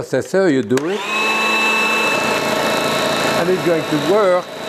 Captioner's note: food processor whirring